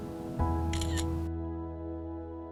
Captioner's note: mobile Phone Camera Clicks